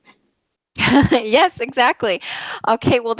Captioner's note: laughs